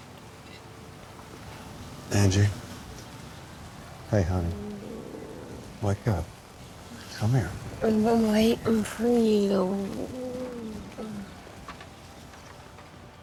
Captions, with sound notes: Angie? Hey, hun? (Angela groaning) Wake up. Come here. - I've been waiting for you. Mm.